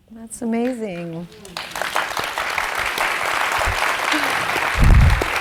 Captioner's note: audience applauding